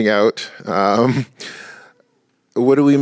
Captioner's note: chuckles